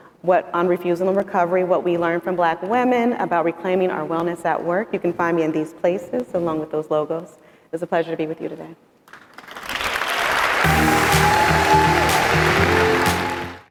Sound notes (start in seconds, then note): 9.8 audience cheering; 10.6 bright upbeat music